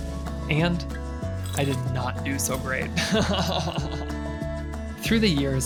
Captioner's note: laughing